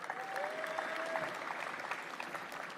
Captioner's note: applause